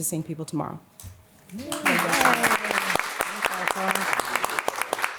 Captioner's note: applause